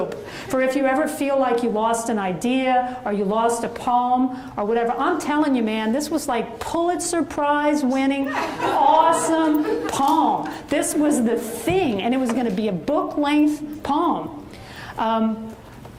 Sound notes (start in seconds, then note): 8.3 audience laughs